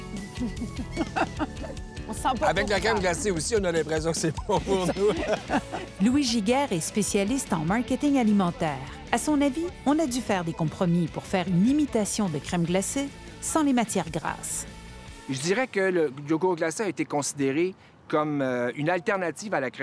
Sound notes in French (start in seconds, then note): 4.2 rires